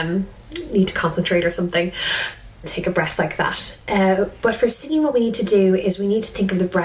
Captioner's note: breathes